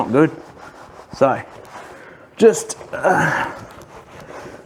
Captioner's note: sighs